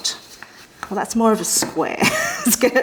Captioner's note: chuckles